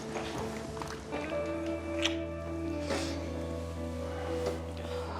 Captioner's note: soft music; kiss smacks softly